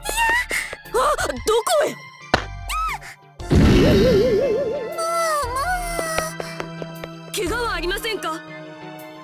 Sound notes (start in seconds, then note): 0.3 panicked gasp; 0.3 panicked cry; 3.0 panicked cry